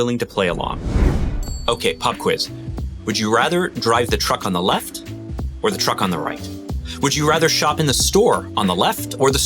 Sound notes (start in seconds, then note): 0.3 wind whooshes; 1.4 bell rings